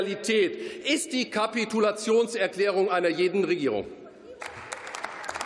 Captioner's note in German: Beifall